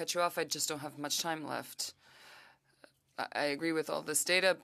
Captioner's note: speaking French